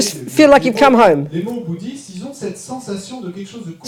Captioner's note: French